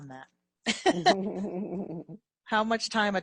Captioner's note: both laughing